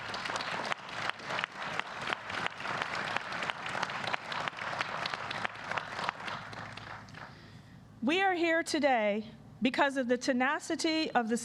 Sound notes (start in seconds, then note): 0.0 applause